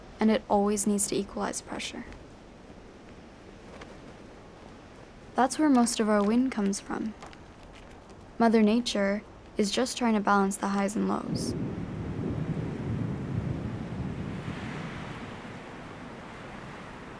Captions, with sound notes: - and it always needs - to equalize pressure. (Flag whips in wind) - That's where most of our wind - comes from. - Mother Nature is just trying - to balance the highs and lows. (Thunder rumbles)